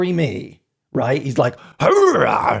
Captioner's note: grumbles